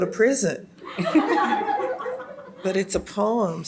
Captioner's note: audience laughs